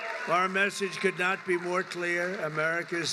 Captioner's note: applause